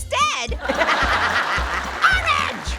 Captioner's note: Orange and audience laughs